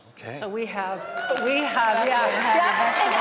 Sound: audience cheering; audience applauding

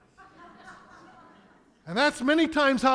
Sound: congregation laughing

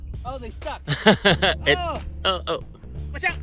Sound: chuckles

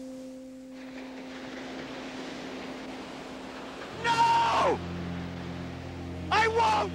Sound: waves crashing

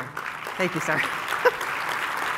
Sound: clapping

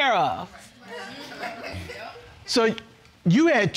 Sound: audience murmuring

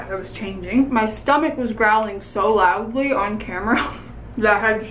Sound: laughs

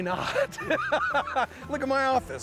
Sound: laughter

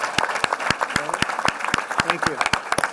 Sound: applause

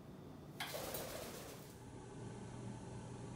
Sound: wings flutter

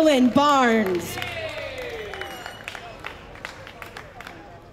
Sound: audience cheering

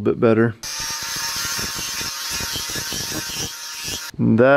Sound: buzzing

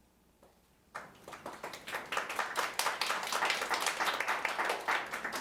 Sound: audience applauding lightly

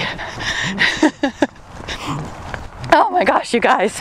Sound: laughs

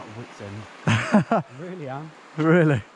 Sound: softly laughs

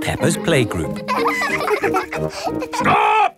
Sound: children laughing

